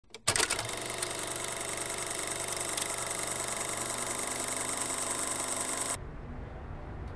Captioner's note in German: Alter Filmprojektor